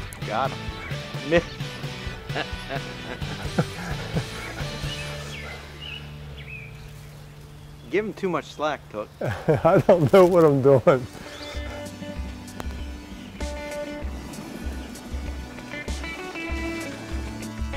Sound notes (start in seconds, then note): 1.7 laughing; 9.1 chuckling; 10.5 slow rock music